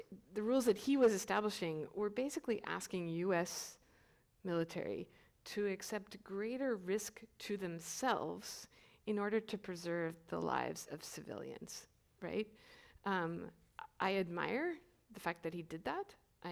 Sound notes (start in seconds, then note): none